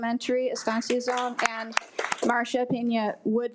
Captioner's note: attendees applaud